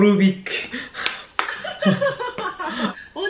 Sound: laughing

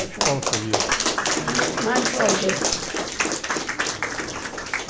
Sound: audience applause

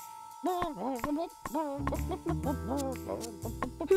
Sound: bawking melodically

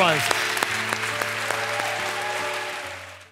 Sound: congregation cheering; congregation clapping

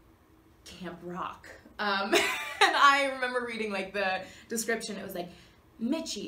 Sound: Kathryn laughs

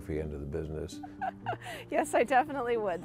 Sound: woman laughs

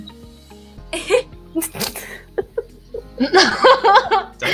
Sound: giggles; laughs

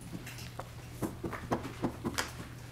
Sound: gavel

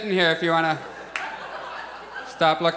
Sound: audience laughs

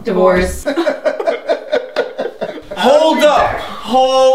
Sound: laughs

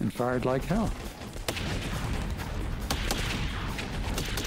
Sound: gunshots

